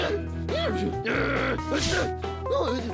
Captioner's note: exclaims irritably